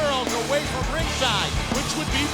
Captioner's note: crowd cheering